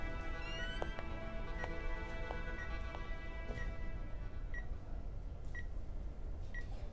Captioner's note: Beeping sound